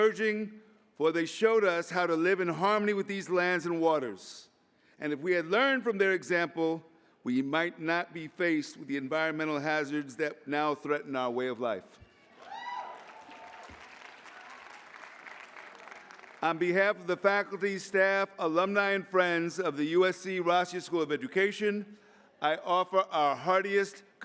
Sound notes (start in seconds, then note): 14.3 applause